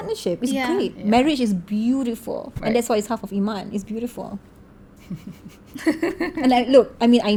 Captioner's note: laugh